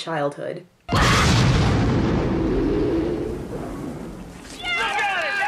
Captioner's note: explosion